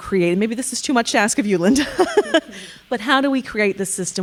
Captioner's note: laughing